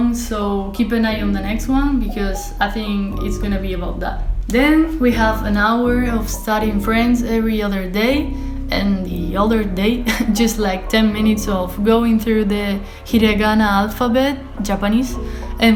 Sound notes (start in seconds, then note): 9.8 laugh